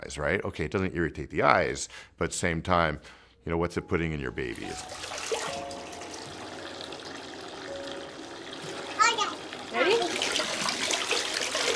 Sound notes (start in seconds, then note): 4.5 water splashing; 9.0 baby babbling